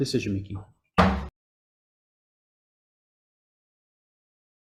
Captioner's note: gavel bangs